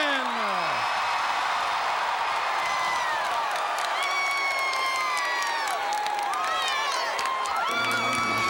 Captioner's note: crowd cheering